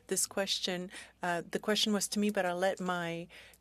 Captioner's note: speaking French